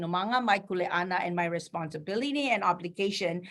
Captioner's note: speaking in foreign language